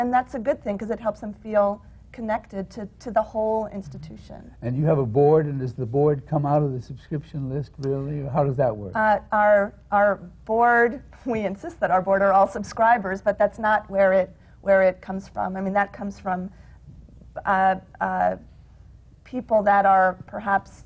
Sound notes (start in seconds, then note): 10.1 laughs